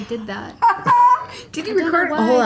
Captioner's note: laughs